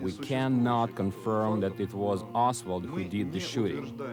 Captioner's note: speaks in foreign language